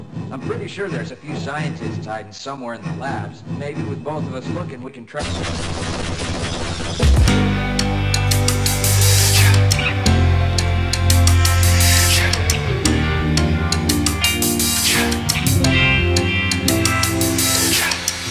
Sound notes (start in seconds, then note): 5.2 incredibly loud gun noises